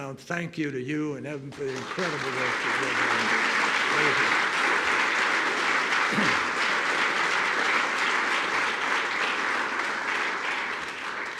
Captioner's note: applause